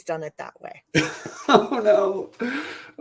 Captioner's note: laughter